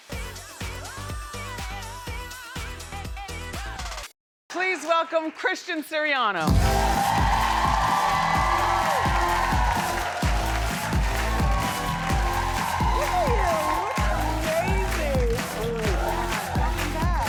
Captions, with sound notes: (upbeat music) Please welcome, Christian Siriano! (applause) You look amazing!